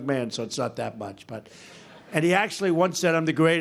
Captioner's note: laughter